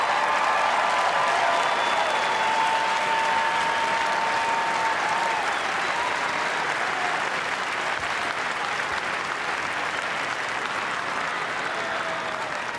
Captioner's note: applause, cheers